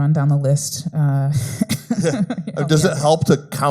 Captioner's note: laughs